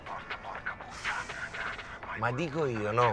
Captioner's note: deep sigh